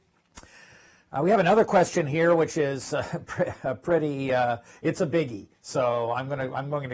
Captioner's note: laugh